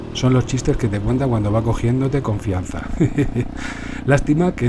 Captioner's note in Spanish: risas